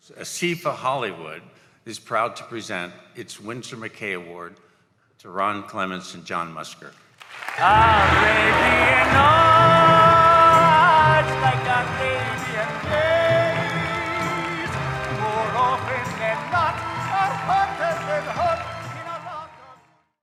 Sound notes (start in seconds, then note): 7.2 clapping While the song " " is playing